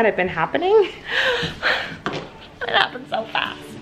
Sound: gasping

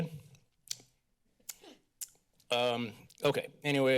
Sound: clicks tongue

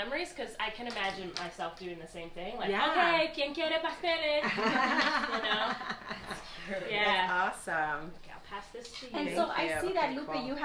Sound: laughs

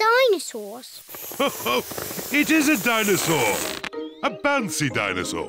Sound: laughs

